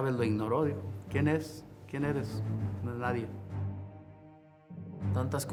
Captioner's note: Canelo speaks Spanish